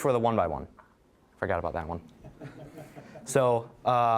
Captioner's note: audience laughing